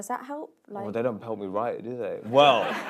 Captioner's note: laughter